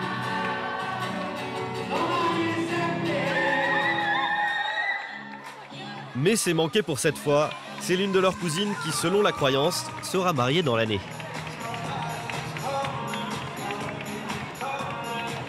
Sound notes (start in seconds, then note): 3.4 screams